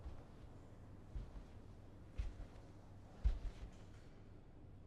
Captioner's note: footsteps padding